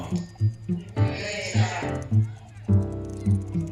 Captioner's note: group Voices